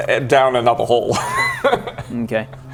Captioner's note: a cowards laughter